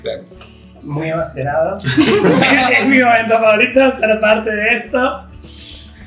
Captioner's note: laughter